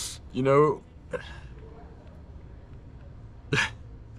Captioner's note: laughing